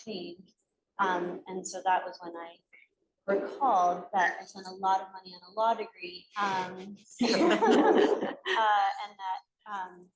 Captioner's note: laughter